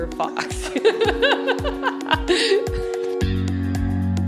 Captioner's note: laughter